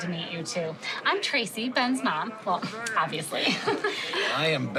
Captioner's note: laughs